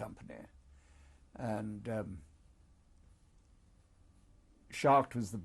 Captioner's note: pauses for 3 seconds